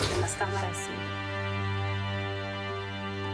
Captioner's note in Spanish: Ruido al tirar algo